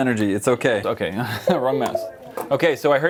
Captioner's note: laughter